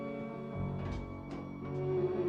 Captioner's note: Pintu terbuka